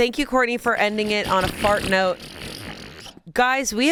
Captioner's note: imitates fart